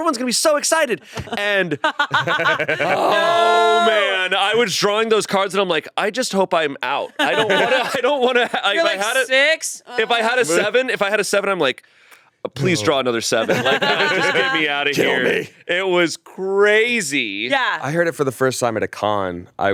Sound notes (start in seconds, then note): 1.0 all laughing